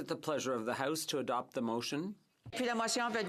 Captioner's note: speaking in french